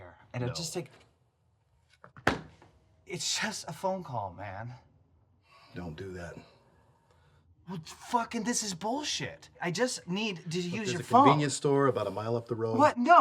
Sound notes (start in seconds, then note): 2.2 hitting the door